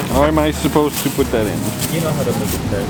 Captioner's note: plastic bag rustling